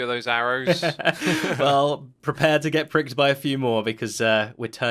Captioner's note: chuckles